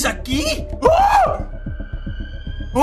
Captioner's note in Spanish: Sorprendido